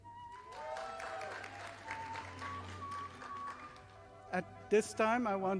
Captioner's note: audience applauding